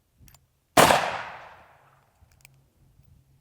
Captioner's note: gun shooting